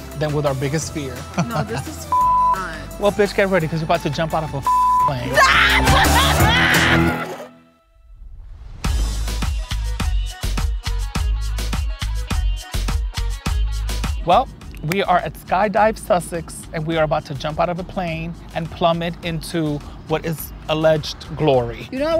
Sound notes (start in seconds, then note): 5.3 laughing; 9.0 upbeat music